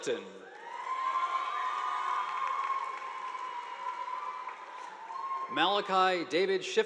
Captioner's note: audience applauding; students cheering